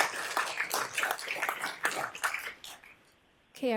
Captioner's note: applause